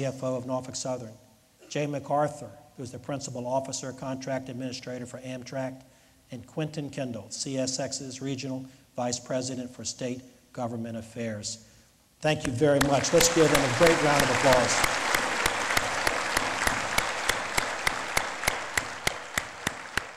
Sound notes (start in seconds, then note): 14.4 lead Applause